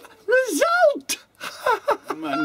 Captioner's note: laughs